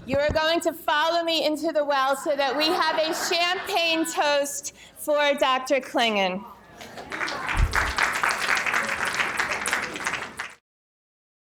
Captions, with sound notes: you are going to follow me into the well so that we have (audience chattering) a champagne toast for Dr. Clingan. (audience cheering) (audience applauding)